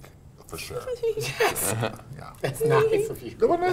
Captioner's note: giggles